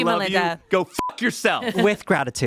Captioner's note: beep